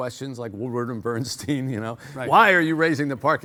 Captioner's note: chuckles